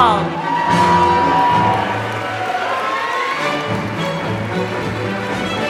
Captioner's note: applause